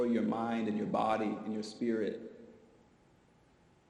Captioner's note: none